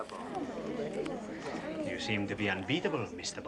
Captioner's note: crowd chattering